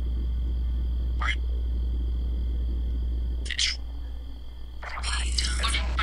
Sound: Necrophonic app screeching

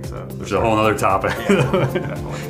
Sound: laughs

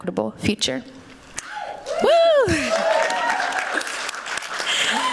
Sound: applause

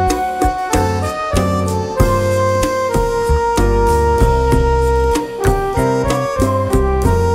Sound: cicada

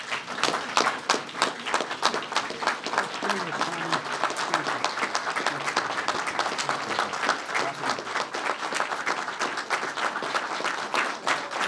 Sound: applause

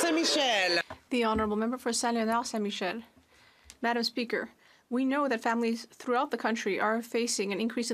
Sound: some Applause

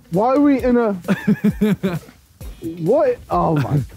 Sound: laughing

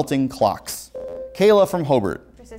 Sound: buzzer

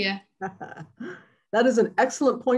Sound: laughs

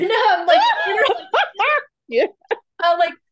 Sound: laughs

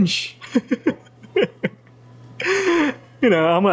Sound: laughs

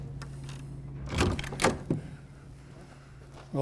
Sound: knocks; door opens

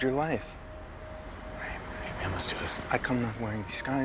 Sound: whispering

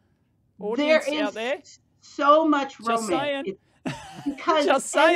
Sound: chuckles

